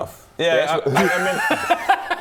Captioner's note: hrgh